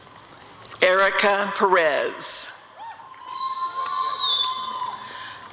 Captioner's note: applause and cheering